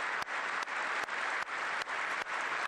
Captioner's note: applause